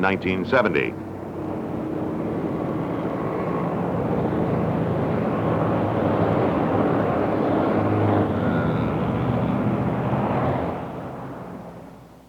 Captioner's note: automobile traffic